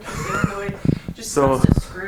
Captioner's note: laughs